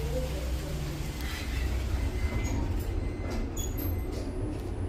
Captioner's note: door buzzer